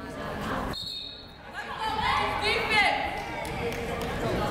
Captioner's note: whistle blowing; yelling